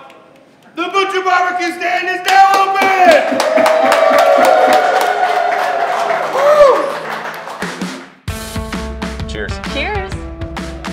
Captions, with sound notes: The Butcher Barbecue Stand is now open! (crowd cheering) Whoo! (upbeat music) - Cheers. - Cheers.